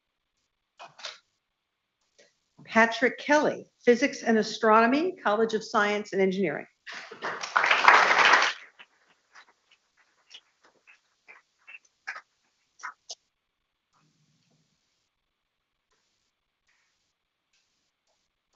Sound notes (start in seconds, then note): 6.9 people clapping